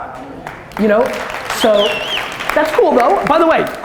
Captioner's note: audience cheers and applause